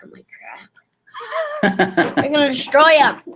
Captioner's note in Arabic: يضحك